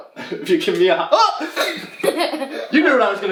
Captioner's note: laughing; groans